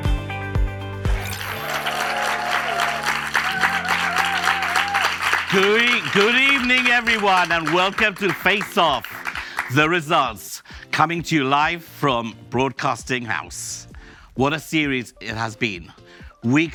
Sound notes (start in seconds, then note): 1.0 audience applauds and cheers